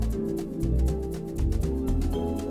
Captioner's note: none